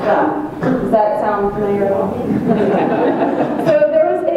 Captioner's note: audience chuckles